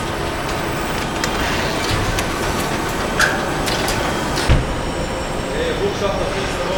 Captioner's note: machines whirring; speaking in foreign language